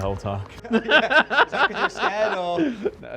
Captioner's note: laughing